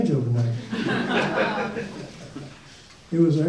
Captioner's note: audience laughs